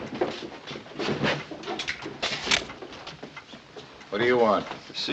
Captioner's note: cocking gun